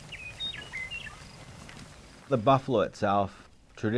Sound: birds sing

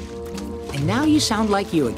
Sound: none

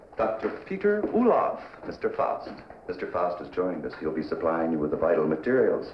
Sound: none

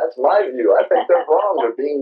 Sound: laughs

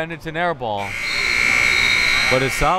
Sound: buzzer

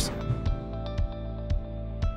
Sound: screen whooshes; bright music

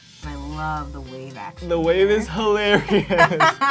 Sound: voiceover

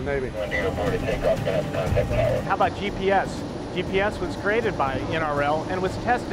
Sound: man speaking indistinctly on radio

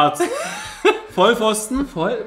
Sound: laughs

